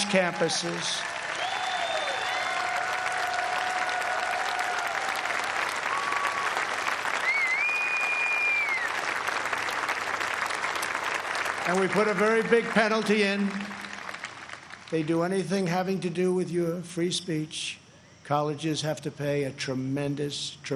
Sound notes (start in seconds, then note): 6.0 cheers and applause